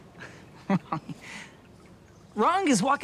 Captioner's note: laughs